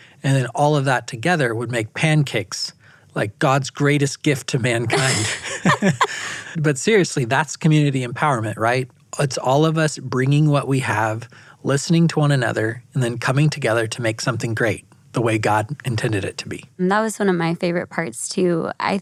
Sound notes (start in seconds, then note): 4.8 laughing